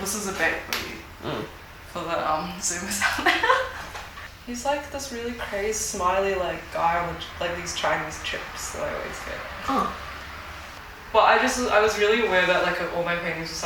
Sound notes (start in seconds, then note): 2.9 laughs